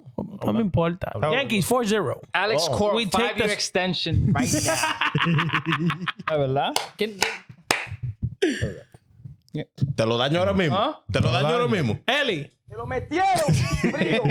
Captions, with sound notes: Yankees 4-0. Alex, can we take your extension right now? (Laughing) (Speaking In Foreign Language) Ellie. (Laughing)